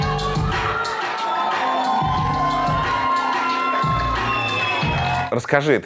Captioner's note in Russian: Зал аплодирует, улюлюкает